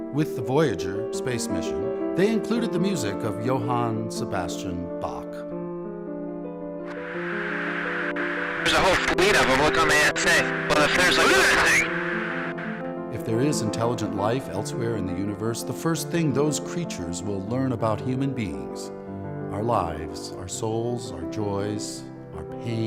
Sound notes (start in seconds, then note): 6.8 static crackling; 7.5 gentle music